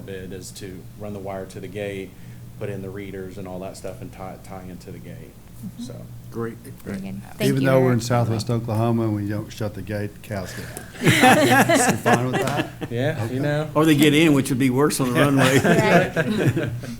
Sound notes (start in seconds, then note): 10.5 laughter; 15.0 laughter